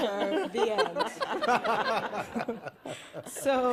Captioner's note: laughter